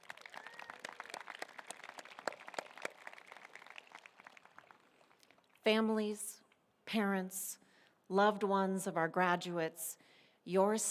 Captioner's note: applause